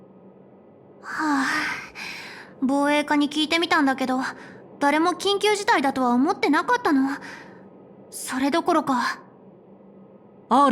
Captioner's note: sigh